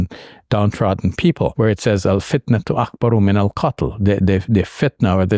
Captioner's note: speaking in Arabic